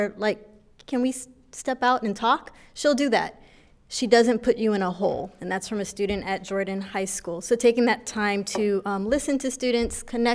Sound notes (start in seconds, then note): none